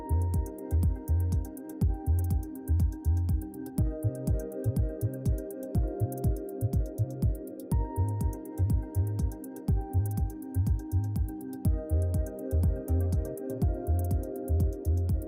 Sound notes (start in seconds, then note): none